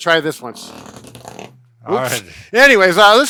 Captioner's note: massager buzzing